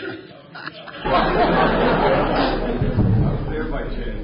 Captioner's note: laughter